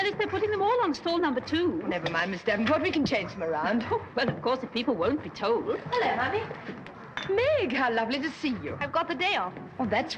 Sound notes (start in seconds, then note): 3.6 chuckles